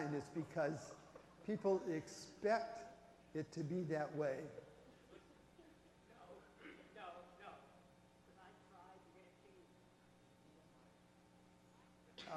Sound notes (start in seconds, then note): 6.3 voiceover